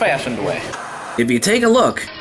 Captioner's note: white noise scratching